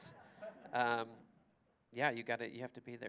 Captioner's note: laughter